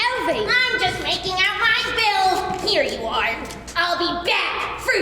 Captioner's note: none